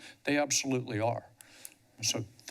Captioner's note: pause